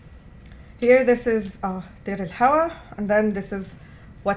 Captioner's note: non-english